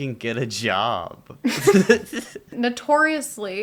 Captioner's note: laughter